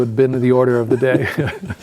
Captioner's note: laughing